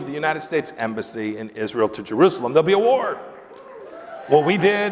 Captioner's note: applause